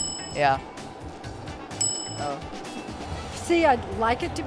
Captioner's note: ding; ding